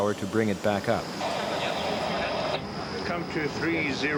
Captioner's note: radio crackling